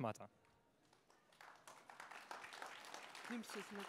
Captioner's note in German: applaus